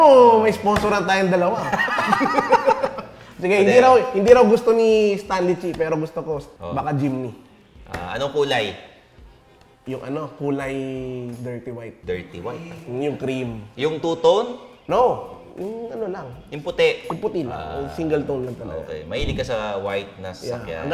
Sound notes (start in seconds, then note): 1.5 both laugh